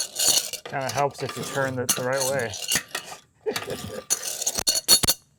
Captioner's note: laughs